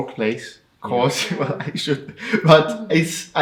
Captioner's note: laughs